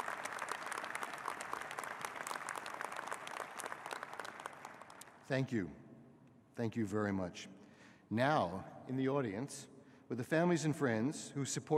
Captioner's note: applause